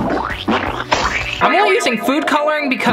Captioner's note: food color squishing